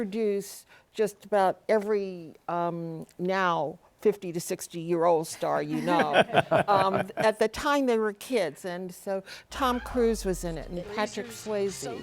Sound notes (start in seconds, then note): 5.7 laughter